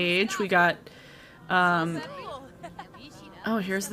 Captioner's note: characters speak gibberish